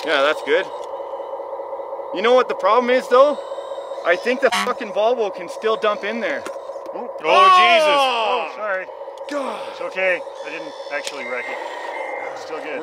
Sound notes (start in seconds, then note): 4.5 horn honks; 8.1 groaning